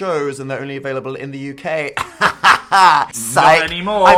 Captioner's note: laughs